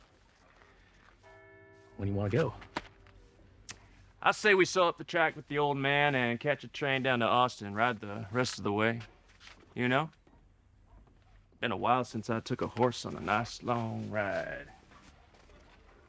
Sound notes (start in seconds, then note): 1.2 bell tolls